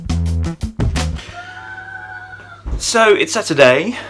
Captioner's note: child yelling